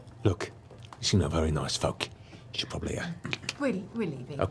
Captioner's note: clicks tongue